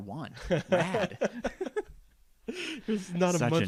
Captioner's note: laughing